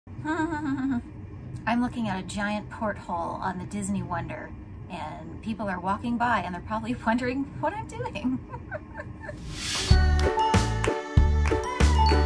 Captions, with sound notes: I'm looking at a giant porthole on the Disney Wonder and people are walking by and they're probably wondering what I'm doing. (laughs)